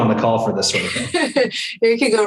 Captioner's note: chuckles